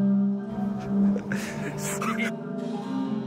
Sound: people laughing

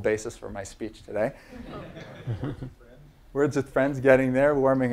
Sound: laugh

